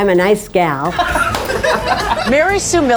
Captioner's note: all laugh